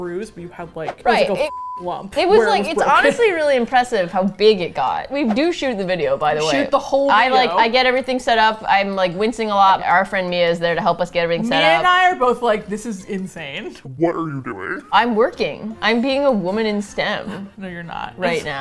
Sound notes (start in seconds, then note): 13.4 deep voice